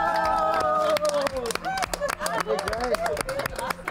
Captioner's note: group cheers and applauds